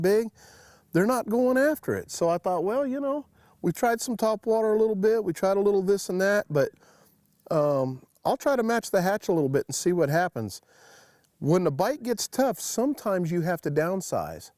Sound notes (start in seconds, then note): none